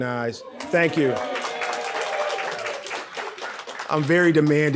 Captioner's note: audience cheering